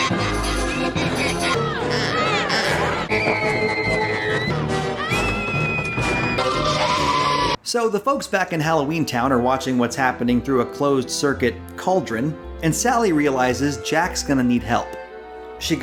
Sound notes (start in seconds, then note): 0.0 jack in the box laughing; 0.0 dark suspenseful music; 1.2 kid screaming; 1.8 kids shouting; 4.2 person screaming; 5.3 kids screaming